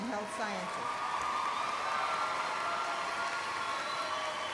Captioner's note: applause